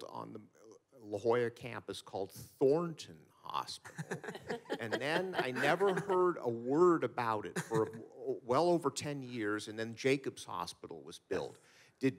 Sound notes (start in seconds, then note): 3.9 panelists laughing